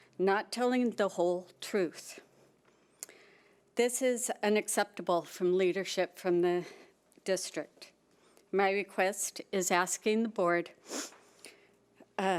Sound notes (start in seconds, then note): none